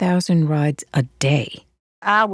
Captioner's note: soundbite of archived recording